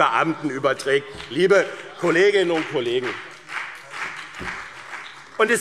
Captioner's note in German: Beifall